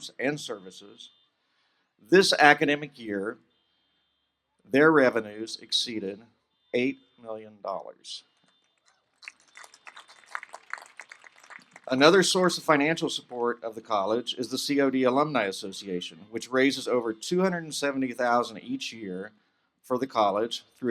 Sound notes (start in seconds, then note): 8.7 applause